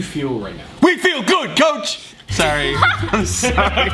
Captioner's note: everyone laughs